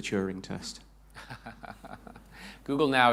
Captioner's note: chuckles